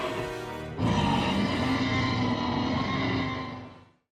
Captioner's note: T-Rex roars